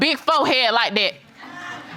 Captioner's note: audience laughing